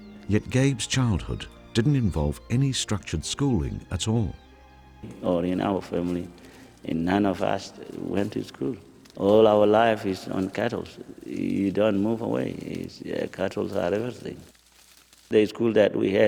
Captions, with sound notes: - [Voiceover] Yet Gabe's childhood didn't involve any structured schooling at all. (rustling)